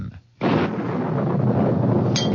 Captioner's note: thunder